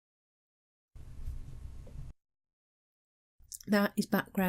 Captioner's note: quiet whooshing